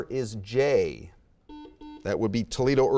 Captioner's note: buzzer beeping